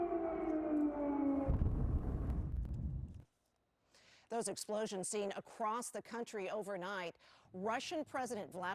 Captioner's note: sirens